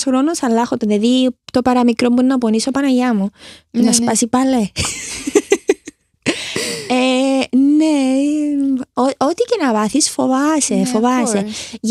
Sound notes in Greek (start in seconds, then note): 4.7 γέλια